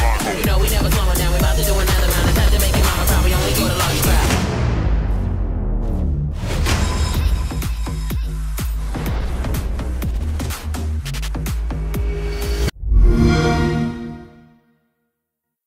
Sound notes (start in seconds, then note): 12.8 xbox sound